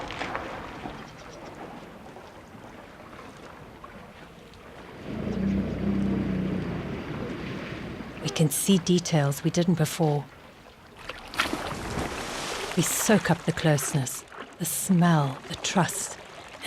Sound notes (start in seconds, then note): 4.9 rumbling; 5.1 animals calling